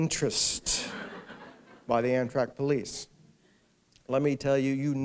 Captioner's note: laughter